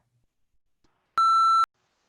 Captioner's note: beep